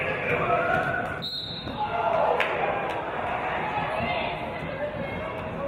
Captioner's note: referee's whistle